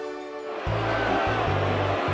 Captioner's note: crowd boos